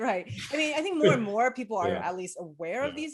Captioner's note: chuckles